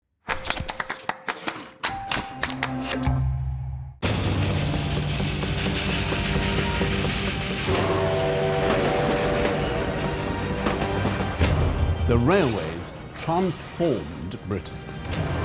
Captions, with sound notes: (upbeat drumming) (dramatic orchestral music) (train chugging) (train whistle blows) - The Railways transformed Britain.